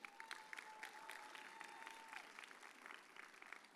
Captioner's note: audience cheers